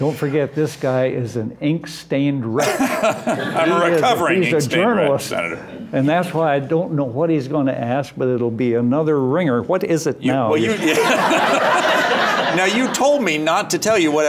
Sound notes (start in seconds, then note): 10.6 laughter